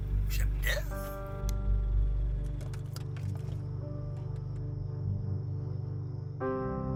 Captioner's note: poignant music playing; crickets chirping; poignant music continuing to play